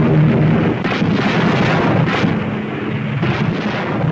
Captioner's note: cannons firing; explosions booming